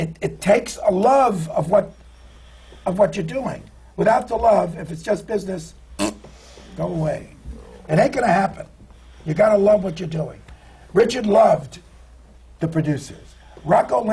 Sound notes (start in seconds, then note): 5.9 does a bronx cheer, waves his hand